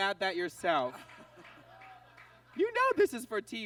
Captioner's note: audience laughs